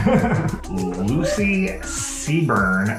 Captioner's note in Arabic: يضحك